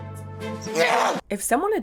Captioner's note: groans